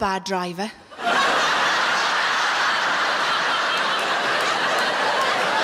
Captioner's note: audience laughing